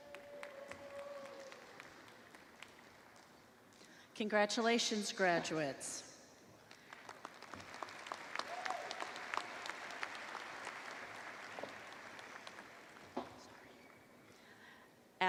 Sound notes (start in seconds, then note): 4.2 applause